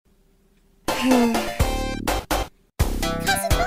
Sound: Bunnie sighs sadly

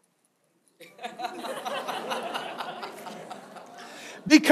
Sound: congregation laughs

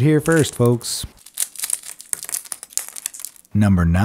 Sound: crunching

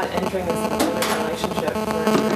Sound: electronic buzzing

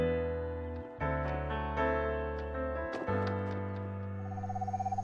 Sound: owl hooting

